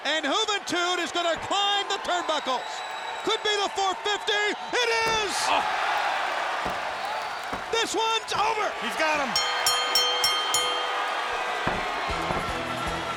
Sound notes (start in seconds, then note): 5.8 audience cheers; 9.2 bell rings; 11.2 audience cheers